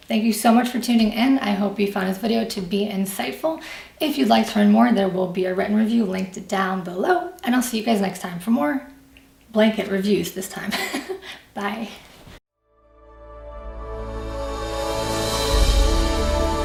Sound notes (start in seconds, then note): 10.7 laughs; 12.6 inspirational music